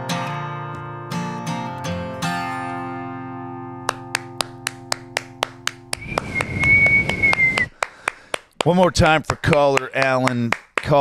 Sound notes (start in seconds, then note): 3.9 clapping and whistling